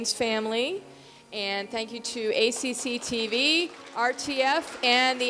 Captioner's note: audience applauding